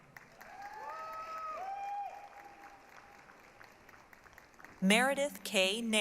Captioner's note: applause, cheering